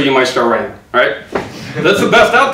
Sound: audience laughs

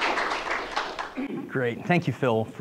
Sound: group applauds

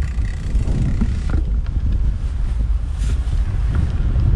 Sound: gears whirring

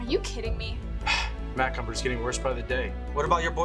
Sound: sigh

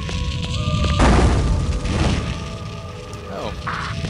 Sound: fire shooting

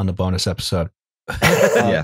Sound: laughter

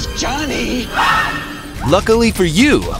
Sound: screams

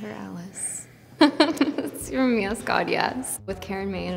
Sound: laughs

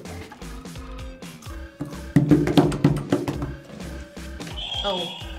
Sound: hands banging against table

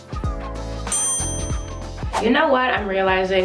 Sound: bell dings

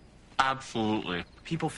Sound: with mouth full

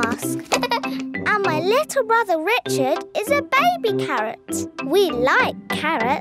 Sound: giggles

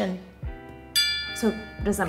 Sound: bell chime

